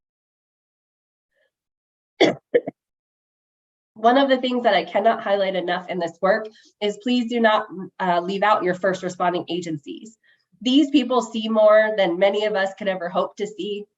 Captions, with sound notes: [coughs] One of the things that I cannot highlight enough in this work is please do not leave out your first responding agencies. These people see more than many of us could ever hope to see.